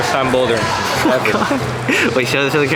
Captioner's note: laughing